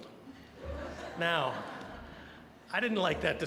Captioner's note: audience laughing